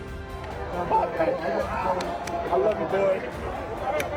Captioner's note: team cheering